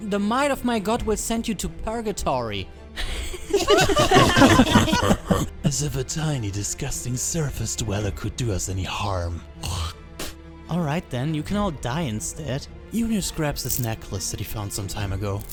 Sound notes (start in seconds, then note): 3.0 laughter